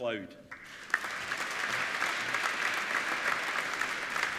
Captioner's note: applauding